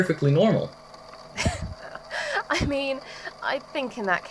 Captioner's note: slightly exasperated laughter